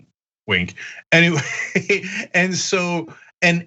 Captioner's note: laugh